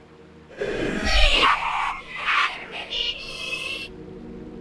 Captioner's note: Chaotic bahro cries